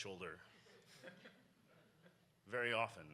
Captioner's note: audience laughs